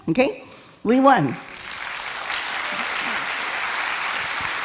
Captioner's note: applauding